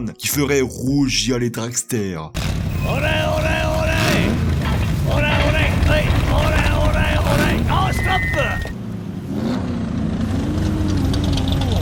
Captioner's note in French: Passage de sons d’un moteur